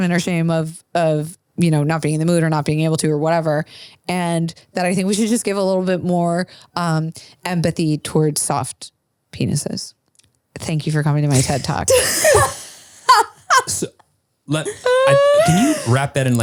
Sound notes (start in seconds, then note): 12.2 laughs